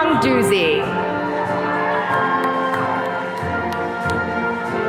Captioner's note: attendees cheering